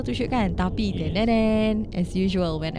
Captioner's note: imitates suspense sound